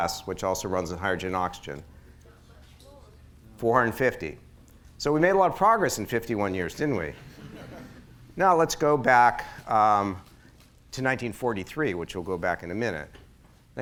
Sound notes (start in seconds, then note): 7.1 laughter